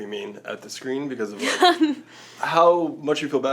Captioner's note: Joey laughs